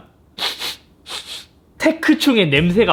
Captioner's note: sniff